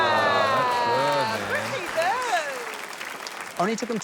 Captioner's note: applause